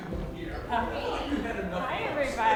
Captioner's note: laughter